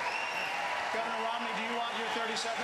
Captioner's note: applause